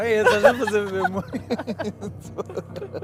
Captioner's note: laughs